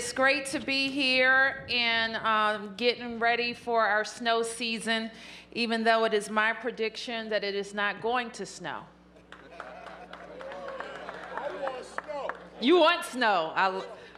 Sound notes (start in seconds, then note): 9.3 applause